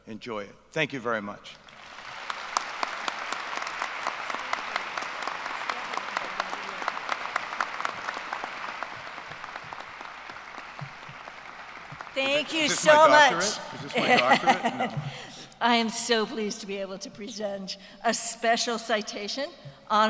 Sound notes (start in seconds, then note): 1.6 applause; 13.3 laughter